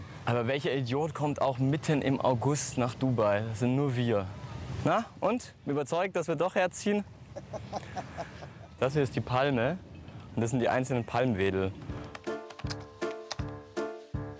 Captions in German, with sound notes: Aber welcher Idiot kommt auch mitten im August nach Dubai? Das sind nur wir. Na, und, überzeugt, dass wir doch herziehen? (Lachen) Das hier ist "Die Palme". Das sind die Palmwedel. (Kecke Musik)